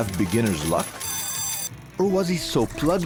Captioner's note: slot machine ringing